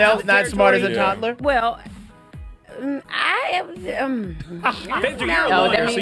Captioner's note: hesitant stutter